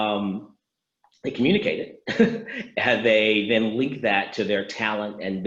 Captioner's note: laughs